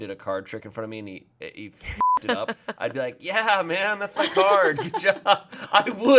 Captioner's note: beep